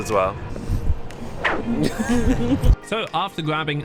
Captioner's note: laughing